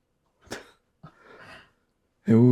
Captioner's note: laughing